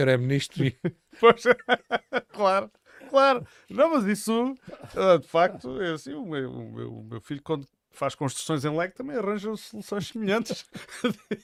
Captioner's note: laughter